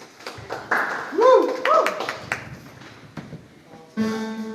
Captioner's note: audience applauds